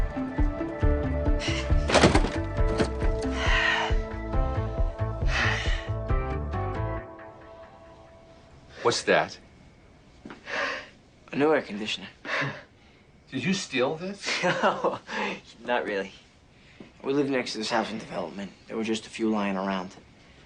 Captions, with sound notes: [Joey sighs] What's that? A new air conditioner. Did you steal this? [chuckles] Not really. We live next to this housing development. There were just a few lying around.